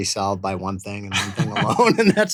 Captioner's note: laughing; laughs